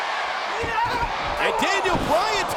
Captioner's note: Bryan yelling